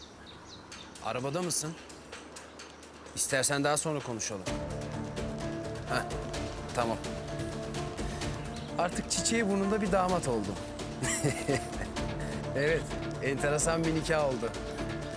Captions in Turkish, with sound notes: Arabada mısın? İstersen daha sonra konuşalım. Heh, tamam. Artık çiçeği burnunda bir damat oldum. (Gülüyor) Evet, enteresan bir nikah oldu.